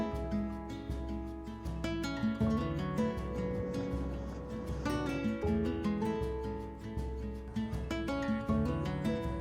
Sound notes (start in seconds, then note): 3.9 wind blowing